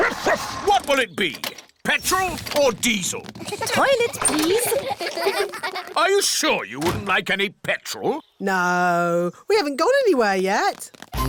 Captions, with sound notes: Woof-woof! What will it be? Petrol or diesel? -Toilet, please. -(KIDS GIGGLING) Are you sure you wouldn't like any petrol? No, we haven't gone anywhere yet.